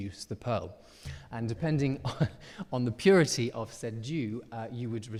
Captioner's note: chuckles